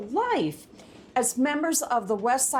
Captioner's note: none